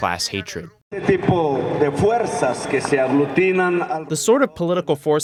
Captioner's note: through translator